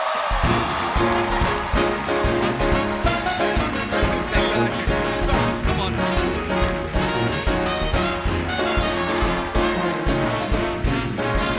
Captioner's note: cheers and applause